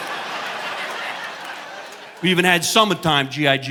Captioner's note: audience laughing